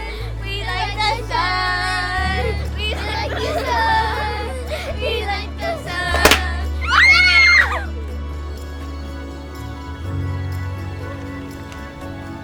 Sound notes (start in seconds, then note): 6.1 balloon pops; 6.7 kids screaming